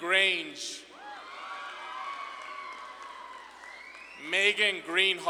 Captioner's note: audience claps and cheers